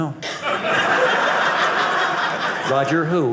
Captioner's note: audience laughing